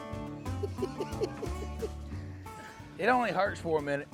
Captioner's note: laughs